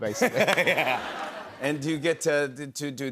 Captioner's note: laughter